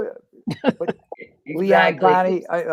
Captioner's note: laughter